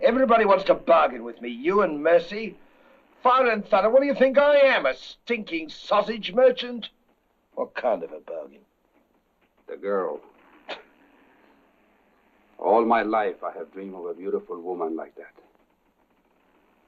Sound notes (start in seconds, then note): 10.4 chuckles